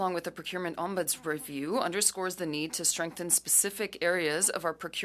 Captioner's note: speaking French